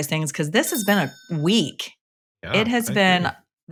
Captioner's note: bell rings